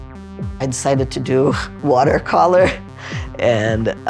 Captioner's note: laughing